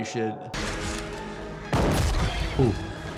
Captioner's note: intense music; shotgun firing